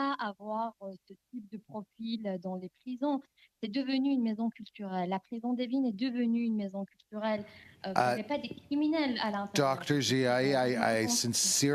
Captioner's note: speaking French